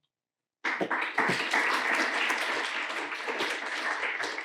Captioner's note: audience applauding